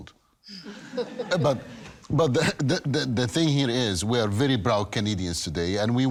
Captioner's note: audience laughing